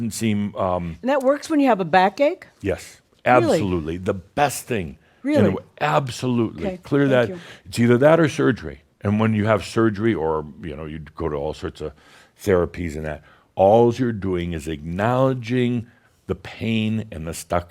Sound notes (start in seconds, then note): none